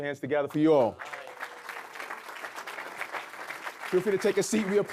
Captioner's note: audience clapping